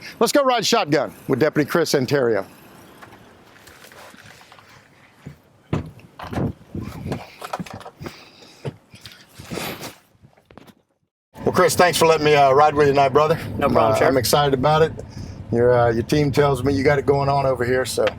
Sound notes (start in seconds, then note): 5.7 door opening